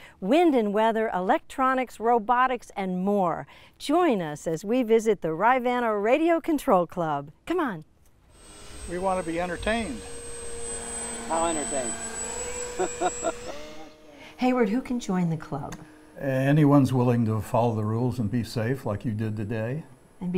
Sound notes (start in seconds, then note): 12.7 laughs